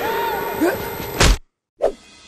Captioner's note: thump